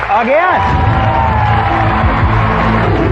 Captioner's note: cheering and applause